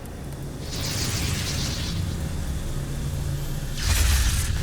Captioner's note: dark magic whooshing; sparkling whoosh-crackle; dark magic whoosh-crackle